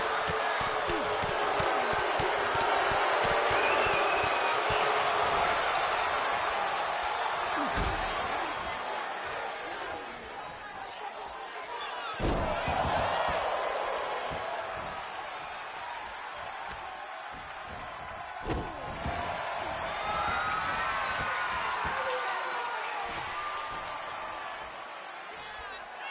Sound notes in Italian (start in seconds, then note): 9.8 applauso